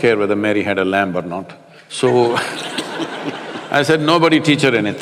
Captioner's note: laughter